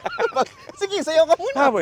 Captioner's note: laughs